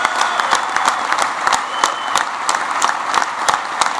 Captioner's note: applause